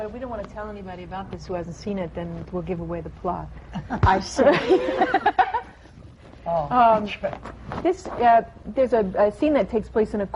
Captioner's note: laughter